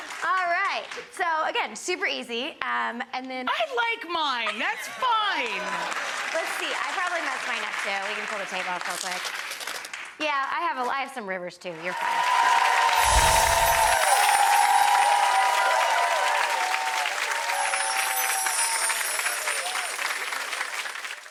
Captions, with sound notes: All right. So again, super easy. And then- I like mine. That's fine. (audience applauding) Let's see. I probably messed mine up too. We can pull the tape off real quick. Yeah, I have some rivers too. You're fine. (end title chiming) (audience applauding) (end title chiming) (audience applauding)